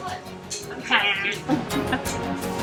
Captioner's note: guffaw